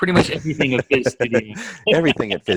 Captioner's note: chuckles